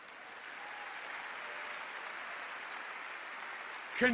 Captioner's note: applause